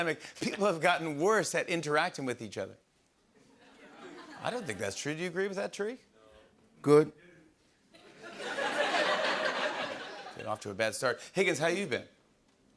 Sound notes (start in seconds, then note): 7.9 laughter